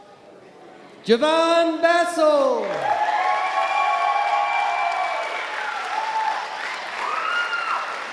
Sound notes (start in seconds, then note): 2.6 audience applauding and cheering